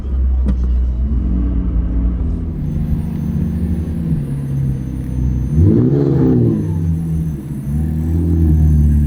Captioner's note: whirring